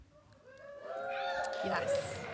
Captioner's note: applause